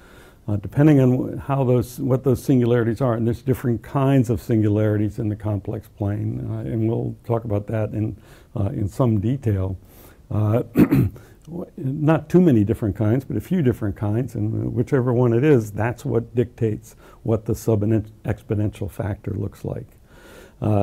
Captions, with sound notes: depending on how the, what those singularities are. There's different kinds of singularities in the complex plane. and we'll talk about that in in some detail. Uh,[COUGH] not too many different kinds but a few different kinds, whichever one it is that's what dictates what the sub and ex-, exponential factor looks like.